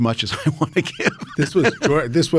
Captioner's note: David laughs